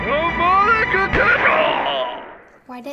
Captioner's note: gunshot; groaning